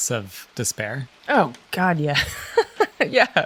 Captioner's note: laughs